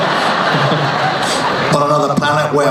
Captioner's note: laughing